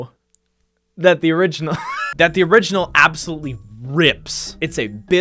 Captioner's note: laughs